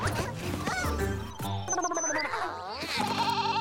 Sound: blabbering; bleating

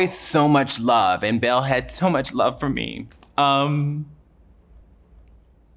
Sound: voice breaks

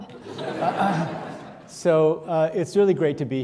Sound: audience laughing

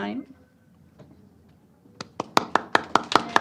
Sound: applause

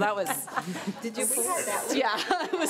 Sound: trustees chattering

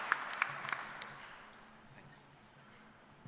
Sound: applause

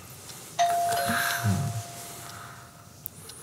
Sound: doorbell again

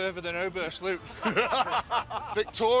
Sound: laughter

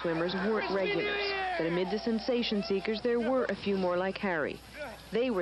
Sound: screams

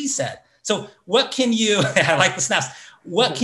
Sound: laughs

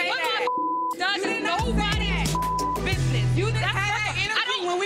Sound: beep

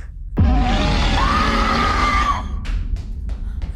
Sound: Red Sister screams

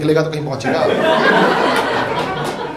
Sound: audience laughs

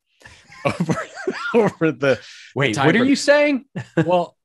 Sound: laughing

